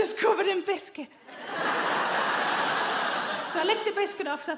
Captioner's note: audience laughs